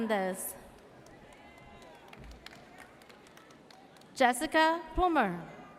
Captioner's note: audience cheers